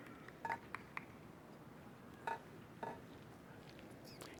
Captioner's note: applause